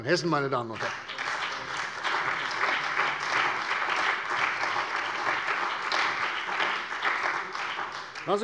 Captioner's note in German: Beifall bei der CDU und dem BÜNDNIS 90/DIE GRÜNEN